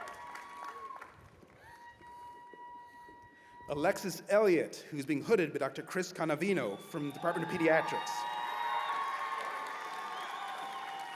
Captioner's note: cheers and applause